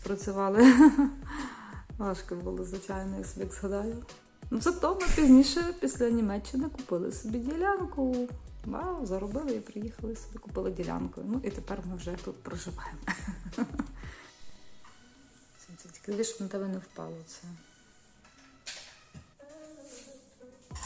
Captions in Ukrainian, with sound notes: працювали. Важко було, звичайно, я собі згадаю. Ну зато ми пізніше після Німеччини купили собі ділянку. Ба, заробили і приїхали союди, купили ділянкою. Ну і тепер ми вже тут проживаємо. [сміх] Тільки диви, щоб на тебе не впало це.